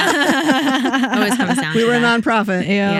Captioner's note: laughing